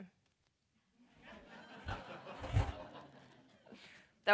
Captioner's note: laughter